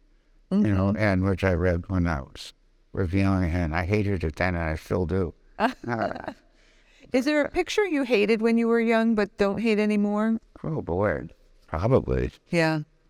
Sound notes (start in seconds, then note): 5.6 both laughing